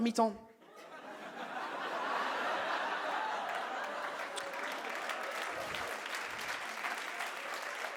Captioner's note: audience laughs and claps